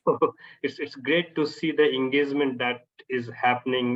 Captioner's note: chuckles